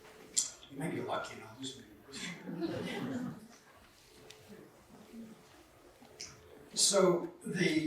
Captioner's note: laughter